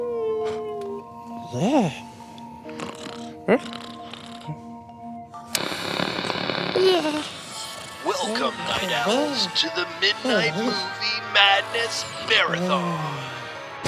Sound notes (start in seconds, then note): 5.5 TV Clicks on, static; 6.0 Excited Derp-lish murmur; 8.0 voice on TV